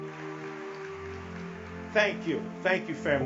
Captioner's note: audience clapping